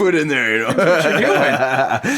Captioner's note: laughing